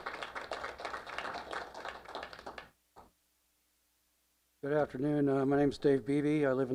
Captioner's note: applause